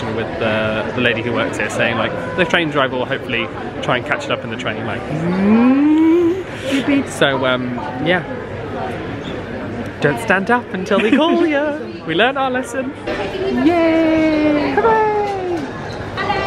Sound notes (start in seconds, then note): 6.2 train noise